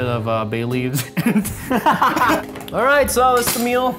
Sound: laughs

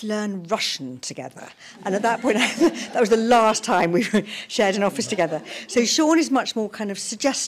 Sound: laughter

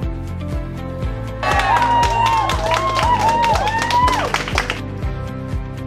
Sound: applause

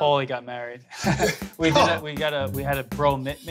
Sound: laughs

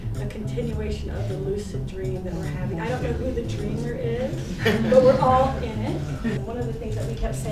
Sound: all laugh

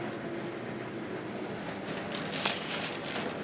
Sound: oil crackles

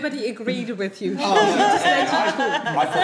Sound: group laughing

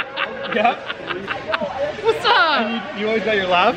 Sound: laughs

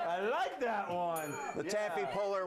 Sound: bell rings

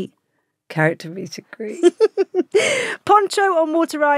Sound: Giovanna laughs

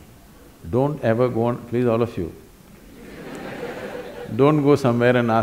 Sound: laughter

